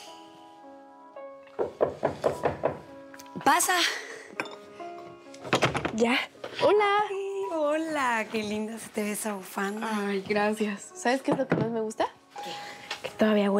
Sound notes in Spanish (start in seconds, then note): 1.6 toques en la puerta; 5.3 ruido al entrar